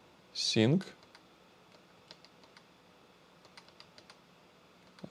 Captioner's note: keyboard clicking